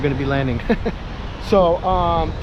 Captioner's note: chuckles